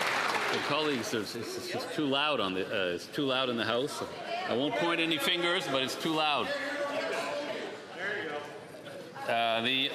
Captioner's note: some Applause